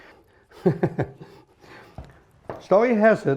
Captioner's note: laughs